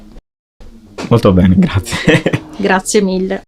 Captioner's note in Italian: risate